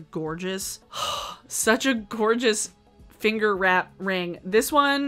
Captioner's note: sighs